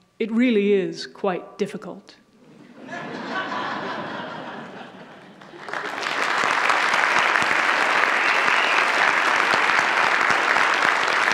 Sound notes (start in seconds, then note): 2.4 audience laughs; 4.7 audience applauds